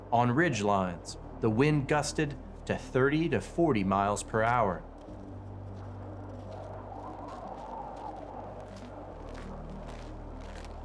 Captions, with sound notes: On ridge lines, the wind gusted to 30 to 40 miles per hour. (wind howling)